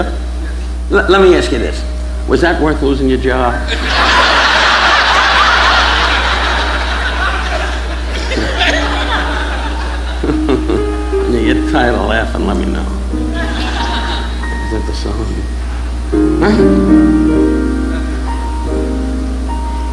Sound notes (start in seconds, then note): 3.3 audience laughing; 7.9 Don chuckling